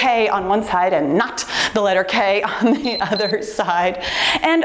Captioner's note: timer beeps